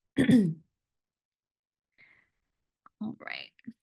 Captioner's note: clears throat